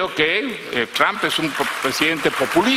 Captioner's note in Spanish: aplausos